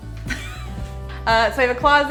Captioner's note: laughs